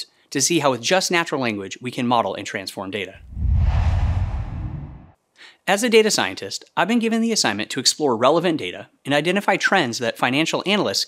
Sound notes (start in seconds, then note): 3.2 logo swooshes